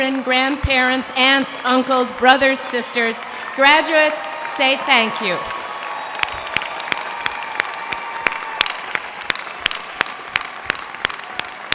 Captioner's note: cheers and applause